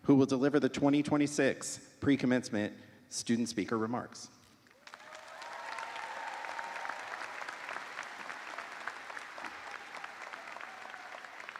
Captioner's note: cheers and applause